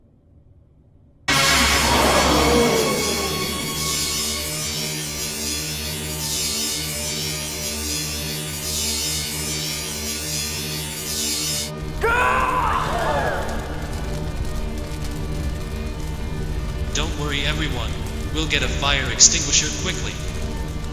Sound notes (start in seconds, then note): 1.3 crowd gasps; 5.1 electricity; 12.0 yells; 12.5 crowd Gasps